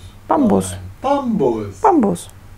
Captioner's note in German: Aus dem Off; Aus dem Off